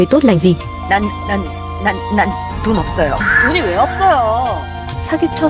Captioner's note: Tiếng ồn phát sóng trực tiếp